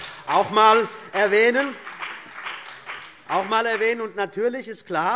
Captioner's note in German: Beifall BÜNDNIS 90/DIE GRÜNEN und vereinzelt CDU